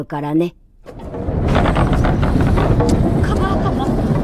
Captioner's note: engine roaring at background